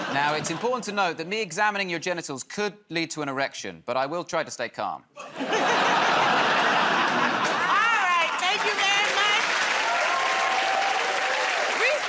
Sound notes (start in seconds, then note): 5.2 laughter; 9.9 cheers and applause